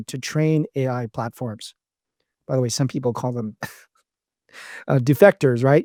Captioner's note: laughs